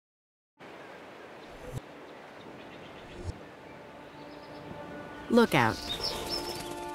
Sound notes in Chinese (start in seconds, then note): 0.6 沙漠聲景; 3.6 戲劇性音樂